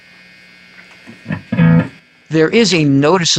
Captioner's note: buzzing Sound; humming Sound; guitar Sounds; click